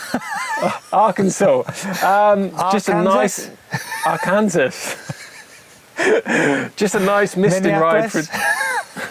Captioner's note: laughs